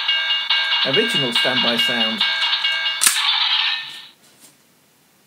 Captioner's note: electronics click